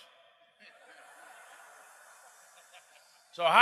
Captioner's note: crowd hissing